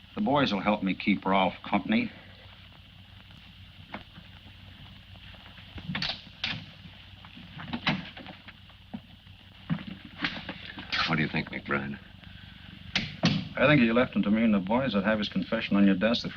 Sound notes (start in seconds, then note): 8.6 door clicking